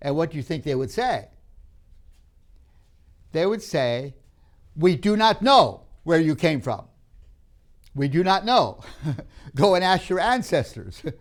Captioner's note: laughs